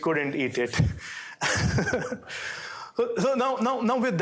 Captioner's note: chuckles